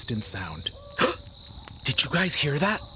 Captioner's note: gasps